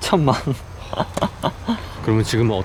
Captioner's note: chuckles